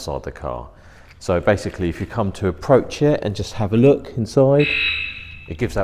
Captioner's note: beep